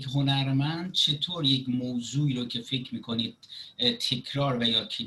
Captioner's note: speaking Farsi